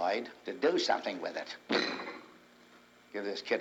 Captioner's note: table thumps